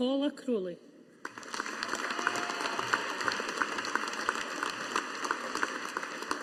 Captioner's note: audience applauding